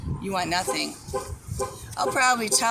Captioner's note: honk honk honk